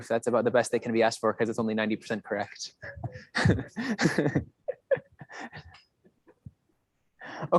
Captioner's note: laughs